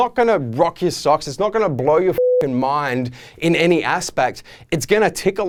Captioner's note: beeping